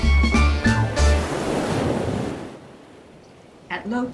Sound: jazz music ends; tidal sounds begin

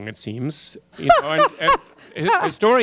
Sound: laughter

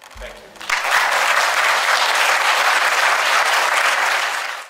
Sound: audience applauds

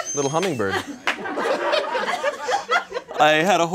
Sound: audience laughs

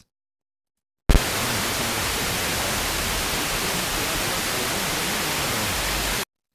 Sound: radio Signal Sound

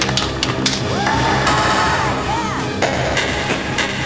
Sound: cheering

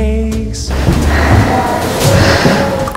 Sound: short of breath

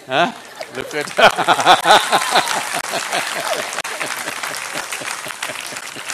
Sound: laughter

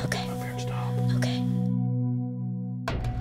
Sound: whispering

